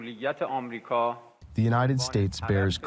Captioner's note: through translator